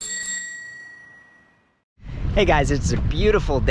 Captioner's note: bike bell ringing